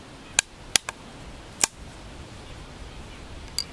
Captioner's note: gun cocking